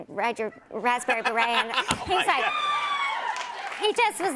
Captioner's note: cheers